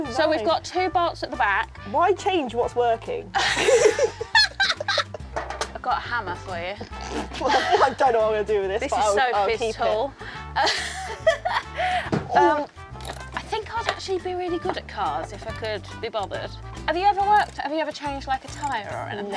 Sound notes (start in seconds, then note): 3.3 both laugh; 10.7 laughs